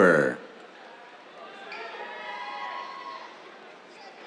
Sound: cheers

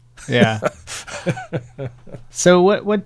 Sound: laughing

